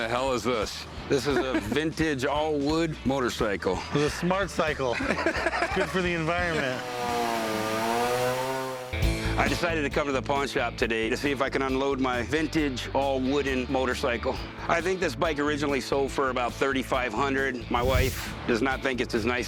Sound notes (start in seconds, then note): 4.8 laughter; 8.3 chainsaw buzzing